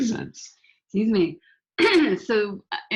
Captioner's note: coughs